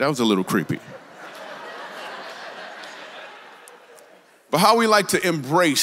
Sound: congregation laughs

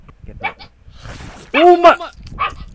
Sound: eating ASMR

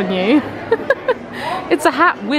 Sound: laughing

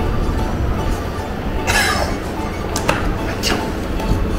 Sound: laughs

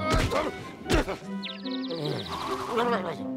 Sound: grunts; birds tweeting; mutters

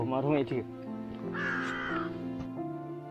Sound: A crow calling

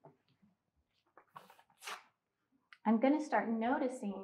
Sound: paper tearing

